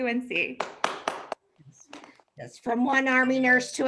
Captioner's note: audience clapping